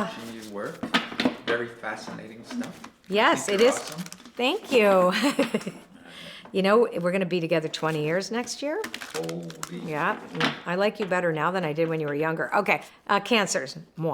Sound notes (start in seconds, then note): 5.0 laughs